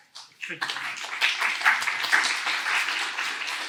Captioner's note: applause